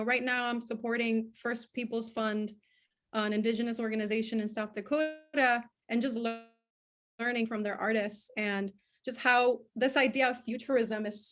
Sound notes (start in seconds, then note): none